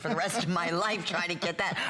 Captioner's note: laughter